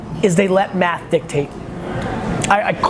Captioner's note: none